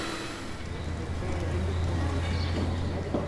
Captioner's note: birdsong